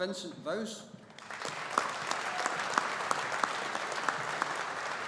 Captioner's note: audience applauding